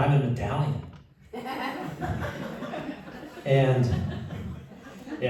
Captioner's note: laughter